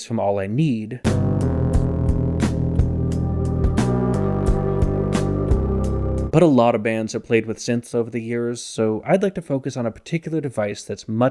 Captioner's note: bang